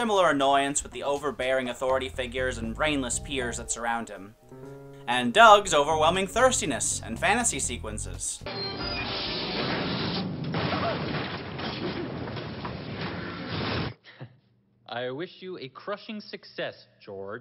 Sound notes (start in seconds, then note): 9.0 crashing noise; 12.0 flaming noise